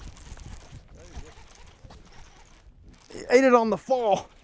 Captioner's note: rod reeling